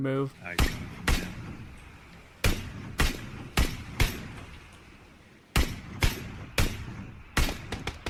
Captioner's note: PUBG Gunshots